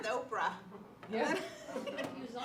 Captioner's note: laughter